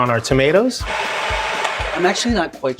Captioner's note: blender whirling